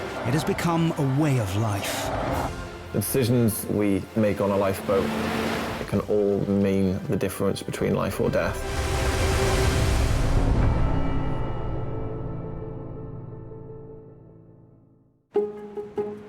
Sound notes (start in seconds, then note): 2.6 dramatic music; 8.5 waves crashing; 10.8 dramatic music